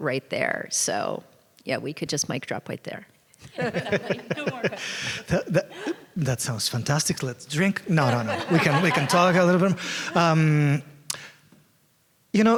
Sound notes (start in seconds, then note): 3.5 laughter; 7.8 laughter